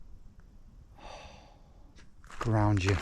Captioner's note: exhales sharply